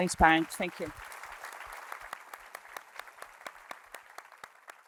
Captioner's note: applause